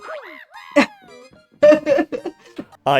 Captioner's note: laughs